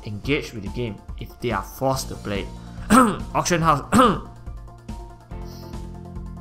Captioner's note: cough